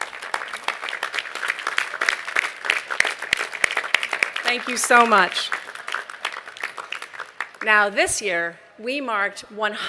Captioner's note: applause